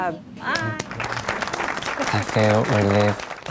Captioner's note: applause